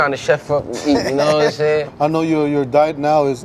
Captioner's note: laughs